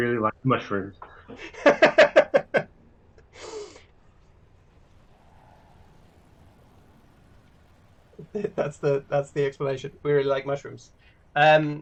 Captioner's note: laughter